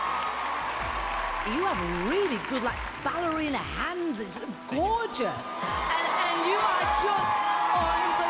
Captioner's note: cheering